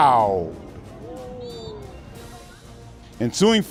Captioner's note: whistle sounds